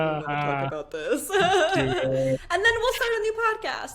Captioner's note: laughing